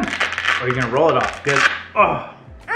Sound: velcros rattling

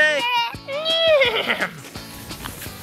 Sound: horse neighs; upbeat music

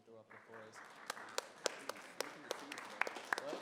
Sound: applause

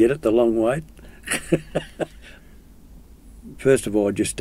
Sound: chuckles

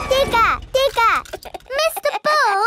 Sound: chuckles

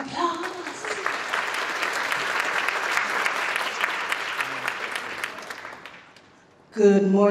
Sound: applause

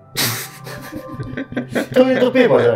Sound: laughing

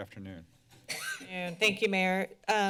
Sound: coughing

